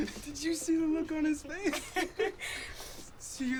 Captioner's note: chuckling